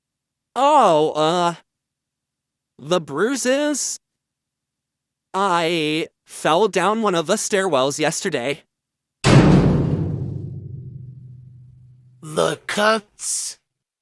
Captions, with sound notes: Oh, uh... the bruises? I fell down one of the stairwells yesterday. [Cell door slamming] The cuts?